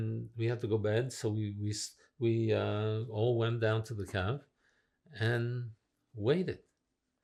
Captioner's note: french